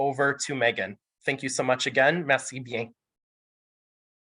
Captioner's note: French